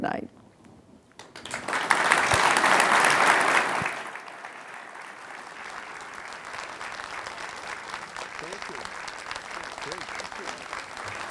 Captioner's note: applause